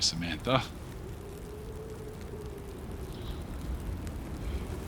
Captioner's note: wind whooshing